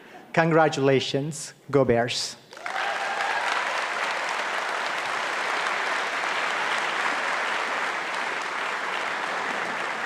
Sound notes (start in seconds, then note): 2.5 audience applauding and cheering